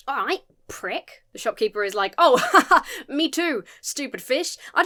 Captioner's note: laughs nervously